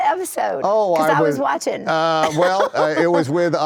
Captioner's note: laughs